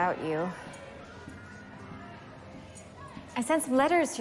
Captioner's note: indndistinct chatter